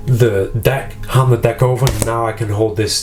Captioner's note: deck slaps